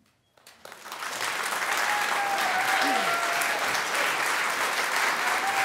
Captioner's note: applause